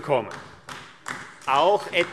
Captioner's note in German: Beifall AfD